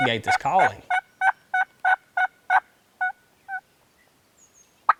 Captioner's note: turkey calling